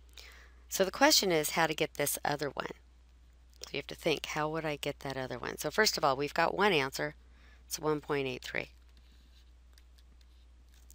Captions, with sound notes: So the question is how to get this other one. You have to think how would I get that other one. So first of all, we've got one answer. It's 1.83. [pause] All right.